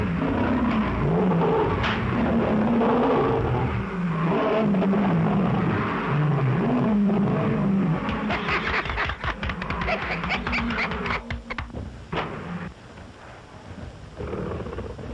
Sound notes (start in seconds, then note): 7.8 applauding